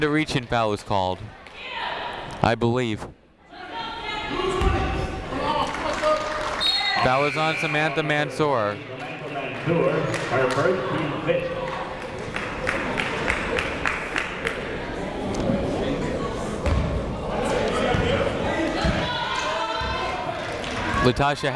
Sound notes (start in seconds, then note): 3.7 people shouting in the crowd; 6.6 whistle tweeting; 12.4 people talking in the crowd; 18.5 people shouting in the crowd